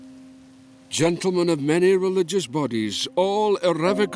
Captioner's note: Voz en off